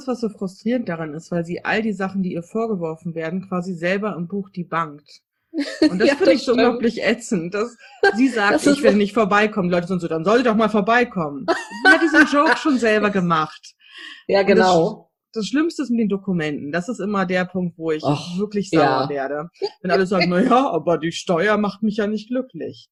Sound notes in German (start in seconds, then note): 5.1 lacht; 11.5 lacht laut